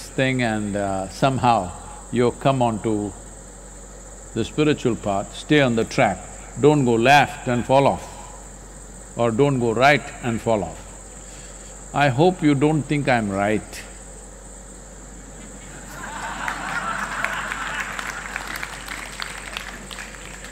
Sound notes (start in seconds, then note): 15.7 laughter/Applause